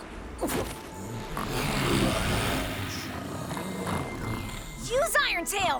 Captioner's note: all snoring